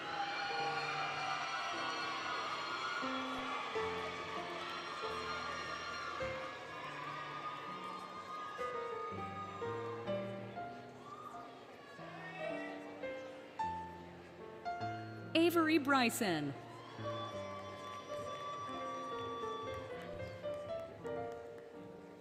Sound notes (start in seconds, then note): 0.0 applause, Cheering, Music; 11.7 cheering, Music; 16.5 applause, Cheering, Music